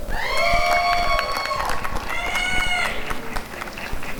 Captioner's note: applause and cheering